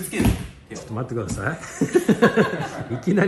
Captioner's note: laughs